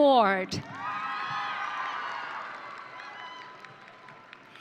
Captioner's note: audience cheering